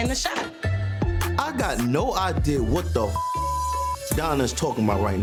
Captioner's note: beeps